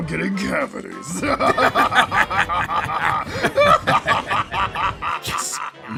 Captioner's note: Bowser and Jasper laugh